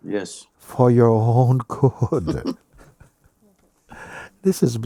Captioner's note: questioner laughing